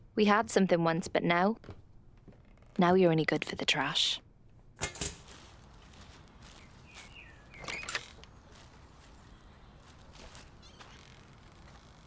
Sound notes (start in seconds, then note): 6.4 gate squeaks